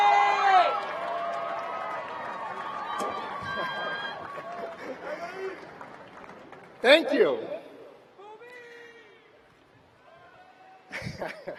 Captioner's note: shouting